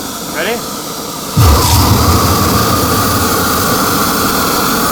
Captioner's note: flames roaring